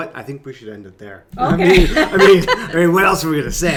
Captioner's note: laughs